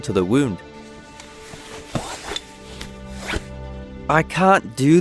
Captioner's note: unbuckling pants, zipper down